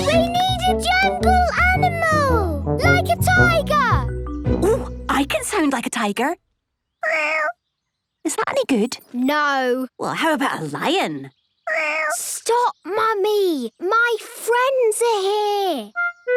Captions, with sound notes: - We need a jungle animal! - Like a tiger! - Oh, I can sound like a tiger! (small meow) Is that any good? - No. - Well, how about a lion? (small meow) - Stop, Mummy. My friends are here!